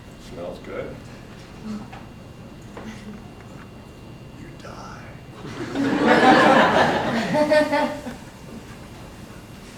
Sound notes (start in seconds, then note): 5.4 audience breaks out in laughter